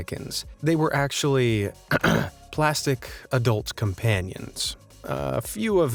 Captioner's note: ahem